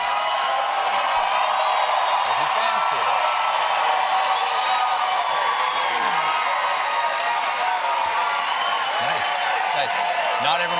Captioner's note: cheers and applause